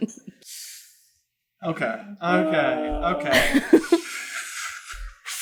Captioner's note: laughs